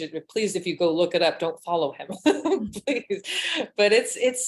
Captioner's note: chuckles